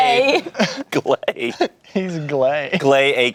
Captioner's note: laughs